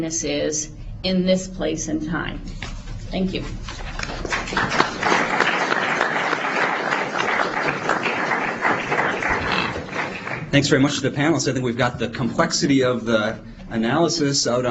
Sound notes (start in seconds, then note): 3.9 applause